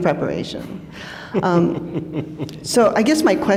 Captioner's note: chuckles